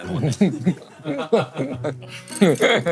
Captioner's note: laughing